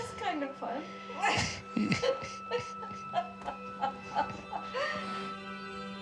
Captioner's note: laughing